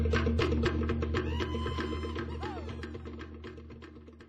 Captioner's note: man exclaims